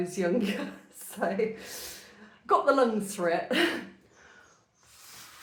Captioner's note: laughter